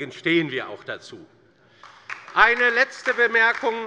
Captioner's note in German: Beifall bei der LINKEN